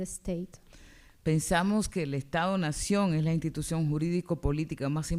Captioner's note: speaking spanish